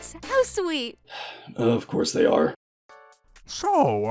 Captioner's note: sigh